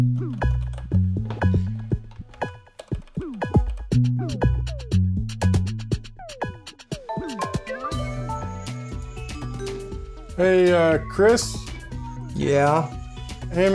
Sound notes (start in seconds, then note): 0.3 upbeat abstract music; 7.1 bells chiming